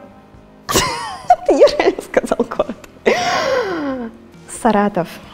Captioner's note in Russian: смех